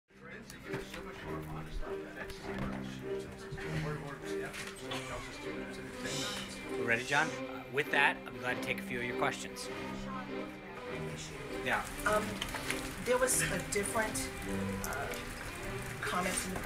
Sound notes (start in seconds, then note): 0.0 reporter talking offscreen; 0.0 stark oppressive Russian string music starts